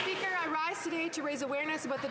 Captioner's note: cheering and Applause